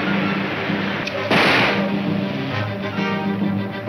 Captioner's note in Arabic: اطلاق نار